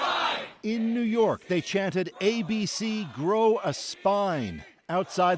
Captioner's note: chanting